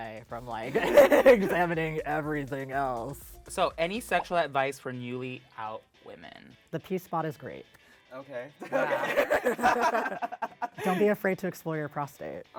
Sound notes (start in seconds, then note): 8.6 laughing